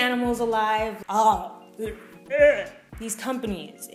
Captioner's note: gags